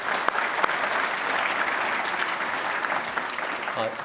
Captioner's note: applause